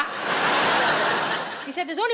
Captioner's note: audience laughing